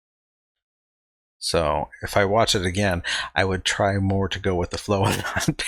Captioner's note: chuckling